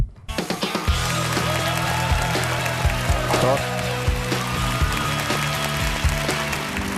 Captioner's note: applause